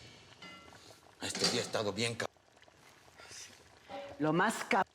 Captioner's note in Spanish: borboteo de la comida